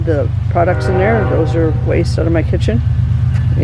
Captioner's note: train horn